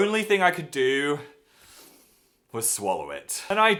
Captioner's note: sharp inhale